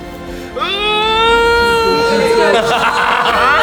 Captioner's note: slow motion scream; laughs